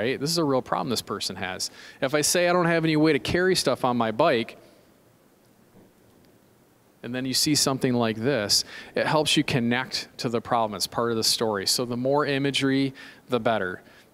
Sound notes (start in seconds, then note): none